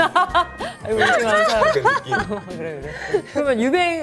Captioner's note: laughs